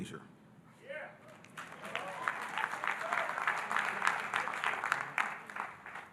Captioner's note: audience cheering and applauding